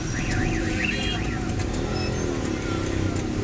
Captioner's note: engines sound